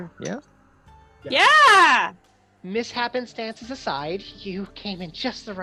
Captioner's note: high voice